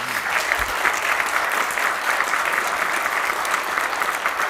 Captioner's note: applause